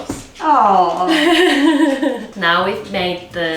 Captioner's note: chuckles